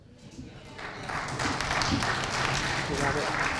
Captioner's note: applause